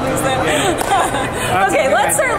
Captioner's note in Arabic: أمي تضحك